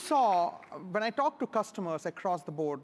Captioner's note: applause